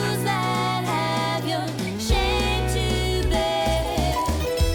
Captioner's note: none